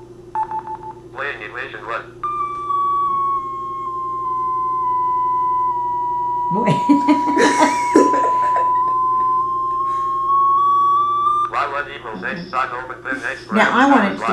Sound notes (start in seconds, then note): 6.7 beeping; 6.9 laughter